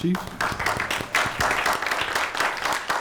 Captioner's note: applause